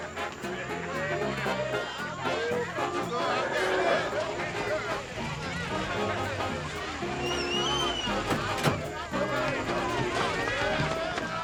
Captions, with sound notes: (lively music plays in hall) (people chattering loudly) (engine revs) - All right, y'all.